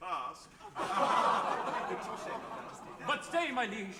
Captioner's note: laughter